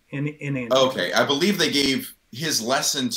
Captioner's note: none